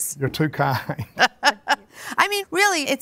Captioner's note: laughs